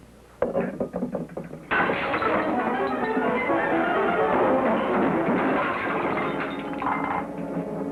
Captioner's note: glass shatters; dramatic music